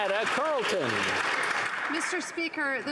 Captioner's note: some Applause